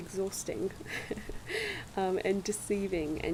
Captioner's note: laugh